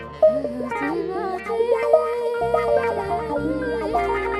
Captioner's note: chanting